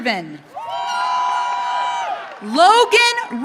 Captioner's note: audience cheering